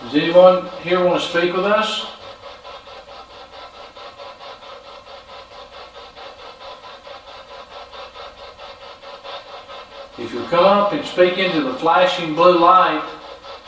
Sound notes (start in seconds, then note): 3.2 machine humming